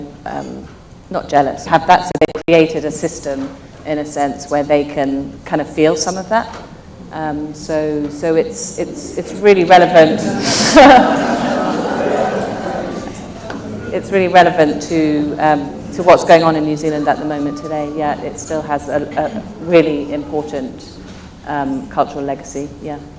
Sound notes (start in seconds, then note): 10.0 laughs